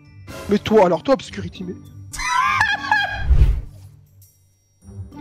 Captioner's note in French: Rires